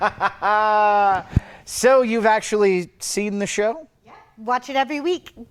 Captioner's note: laughs